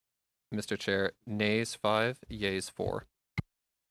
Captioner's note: speaking French